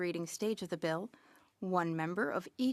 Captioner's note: speaking French